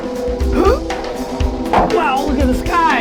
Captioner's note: audience laughing; strains